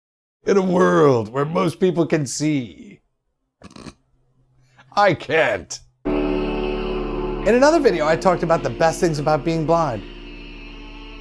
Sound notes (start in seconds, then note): 0.0 in movie announcer voice; 3.3 chuckle